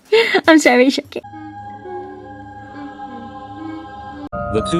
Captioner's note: humming